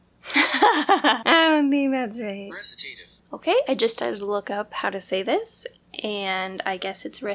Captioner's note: laugh